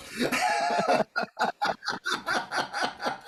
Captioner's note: laugh